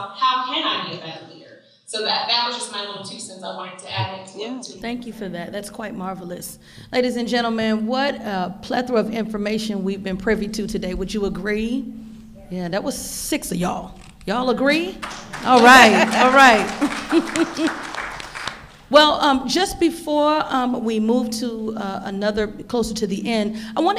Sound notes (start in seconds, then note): 15.0 audience applauding; 15.4 laughing